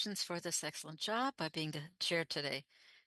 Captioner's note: speaking French